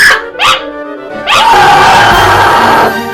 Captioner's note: ahhhhh